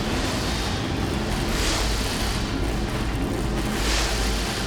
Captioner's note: engine revving continues